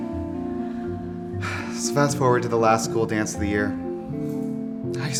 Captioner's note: sigh